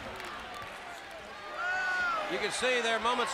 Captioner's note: crowd chatter